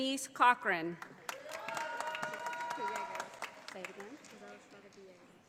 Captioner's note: audience applauding